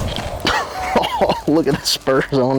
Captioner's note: laughter